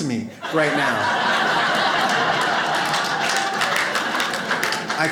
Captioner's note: audience laughs